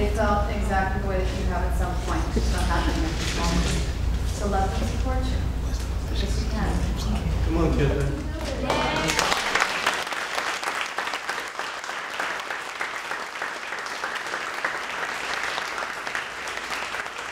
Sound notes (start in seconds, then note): 10.3 cheering and applauding